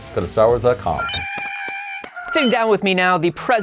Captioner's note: Porg sounds